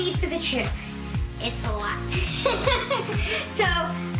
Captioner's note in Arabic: الضحك